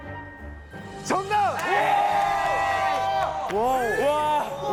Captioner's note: scream~